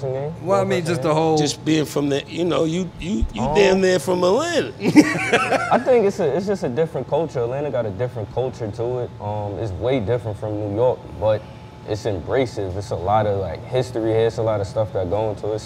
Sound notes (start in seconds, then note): 4.7 laughing